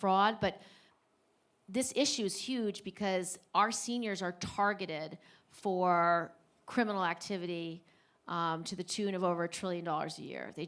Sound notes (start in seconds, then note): none